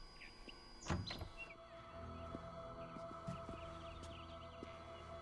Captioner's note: ominous music; door clicks